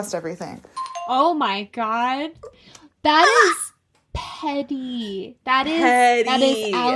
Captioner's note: bingbong